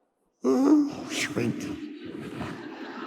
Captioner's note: audience laughing